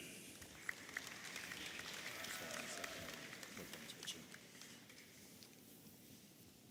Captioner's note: audience applauding and cheering